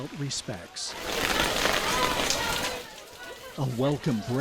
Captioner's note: rain on umbrella/stepping into museum